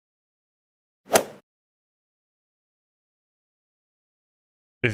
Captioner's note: golf ball hit sound